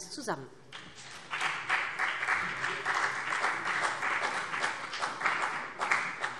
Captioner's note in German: Beifall BÜNDNIS 90/DIE GRÜNEN und CDU